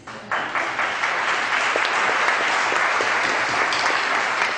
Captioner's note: audience clapping